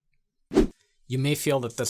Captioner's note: air whooshing